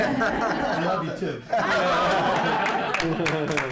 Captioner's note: laughter; applause